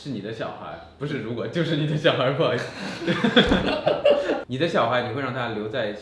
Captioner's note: giggles